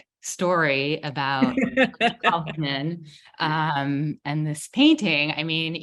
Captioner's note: laughing